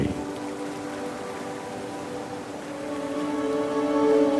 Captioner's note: water sloshing; soft dramatic music continues